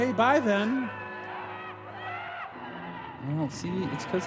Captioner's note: screams